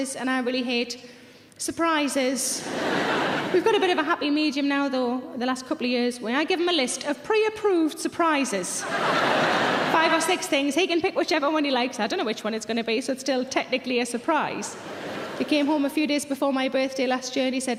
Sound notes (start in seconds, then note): 2.6 audience laughing; 8.8 audience laughing